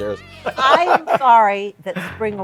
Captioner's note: laughter